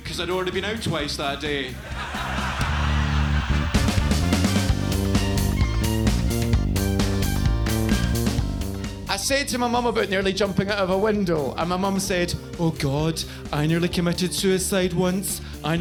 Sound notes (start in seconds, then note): 1.4 audience laughs; 1.9 upbeat music continues